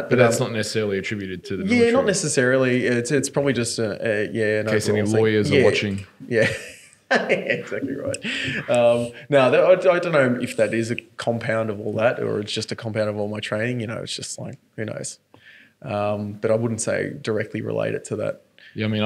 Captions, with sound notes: - But that's not necessarily attributed to the military. - Yeah not necessarily, it's probably just a-- - In case your lawyers are watching. - Yeah. (laughing) exactly right. Now, I don't know if that is a compound of all that or it's just a compound of all my training. It's just like very nice, but I wouldn't say directly related to that.